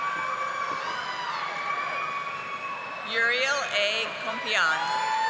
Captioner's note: audience applauding